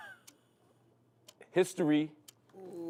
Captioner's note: sighing